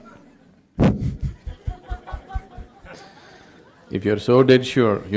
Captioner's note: laughter